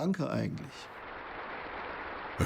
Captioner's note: applause